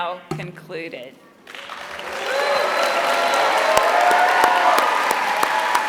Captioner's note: applause